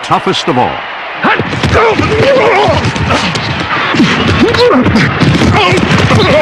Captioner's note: grunting